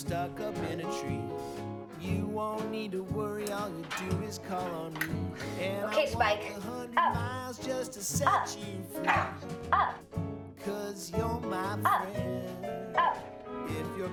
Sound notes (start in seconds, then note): 9.0 dog barking